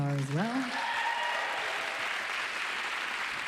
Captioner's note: applauding